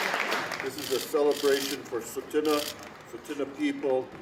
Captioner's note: applause